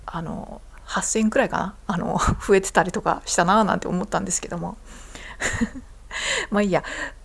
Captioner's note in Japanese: 笑い